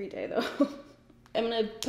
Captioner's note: giggles